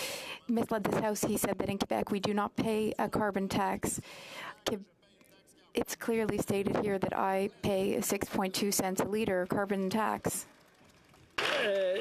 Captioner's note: speaking French